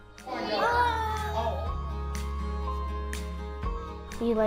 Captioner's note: kids cheering